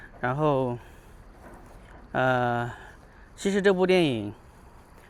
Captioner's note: 英语; 英语